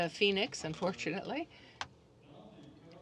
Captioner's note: speaking French